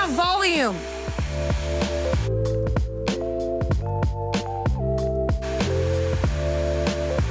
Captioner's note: bright upbeat music; hair blower whooshing; hair blower whooshing